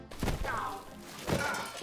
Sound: Jesper thuds

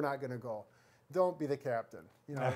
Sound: laughs

